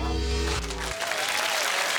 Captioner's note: whistle; applause